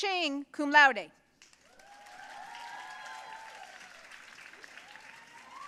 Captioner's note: audience cheering and applauding